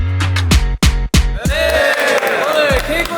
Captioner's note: clap